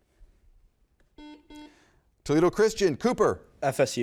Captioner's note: button beeping